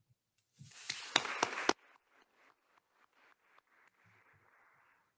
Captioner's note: attendees applauding